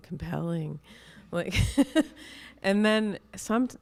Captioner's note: chuckles